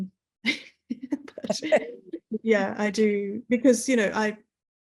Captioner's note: laughing